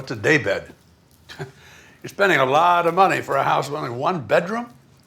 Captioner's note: scoffs